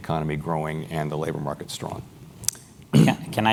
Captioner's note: cough